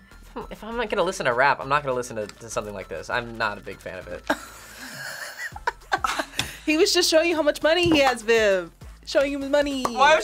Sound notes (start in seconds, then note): 4.4 React laughs